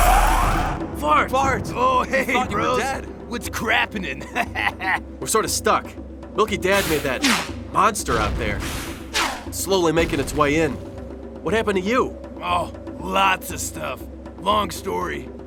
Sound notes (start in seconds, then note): 4.2 laughs